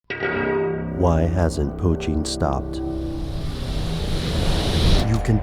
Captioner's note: voiceover